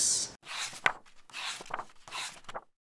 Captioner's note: pages turning